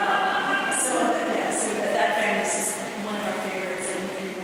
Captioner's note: chuckling